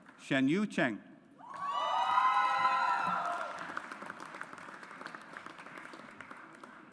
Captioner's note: audience applauds